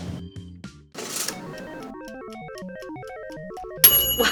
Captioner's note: appliance pings; timer rings